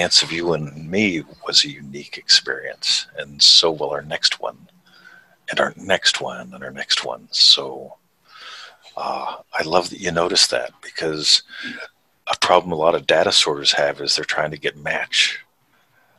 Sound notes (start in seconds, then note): none